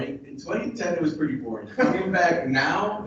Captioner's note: chuckles